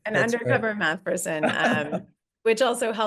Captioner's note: laughing